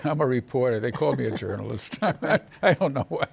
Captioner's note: chuckles